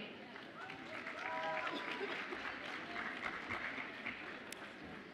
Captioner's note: audience applauds and cheers